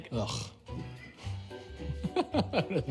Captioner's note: interviewer laughs